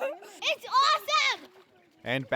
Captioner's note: laugh